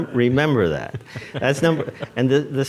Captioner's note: audience laughs